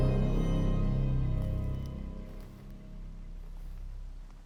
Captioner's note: rain pattering